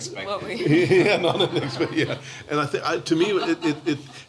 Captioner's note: laughter